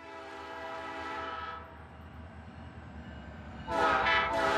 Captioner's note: train horn blowing